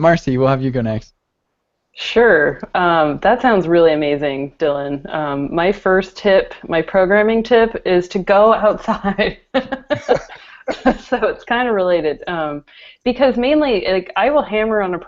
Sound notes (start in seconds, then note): 8.8 laughter